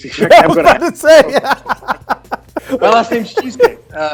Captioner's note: laughing